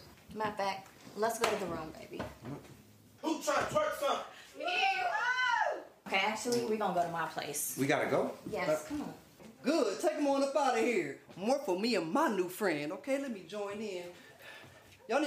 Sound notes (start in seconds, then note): 4.5 women cheer